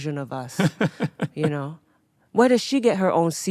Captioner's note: laughing